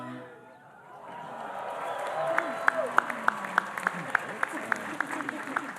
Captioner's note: audience cheering and applauding